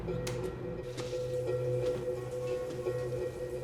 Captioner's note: shower running